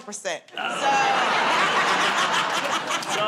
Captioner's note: laughter